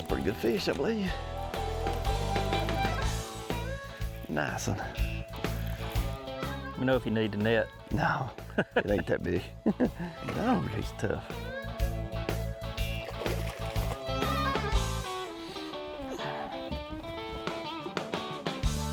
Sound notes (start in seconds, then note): 0.3 upbeat country rock music; 8.3 laughing; 10.5 upbeat country rock music; 12.9 water splashing; 13.4 upbeat country rock music